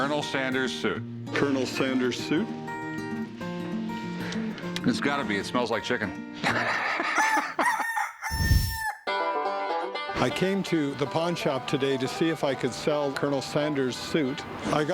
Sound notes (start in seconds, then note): 6.4 laughter; 7.0 rooster crows